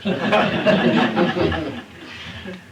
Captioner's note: laughter